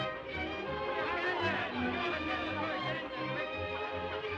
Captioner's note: clamoring